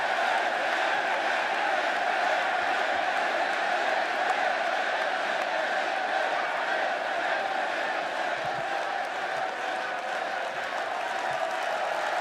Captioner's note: crowd cheering; crowd chanting